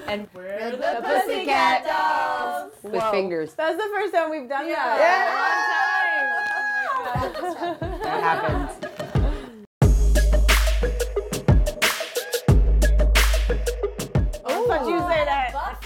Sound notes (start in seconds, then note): 5.0 cheering; 9.8 upbeat hip-hop music